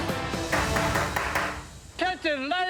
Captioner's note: tapping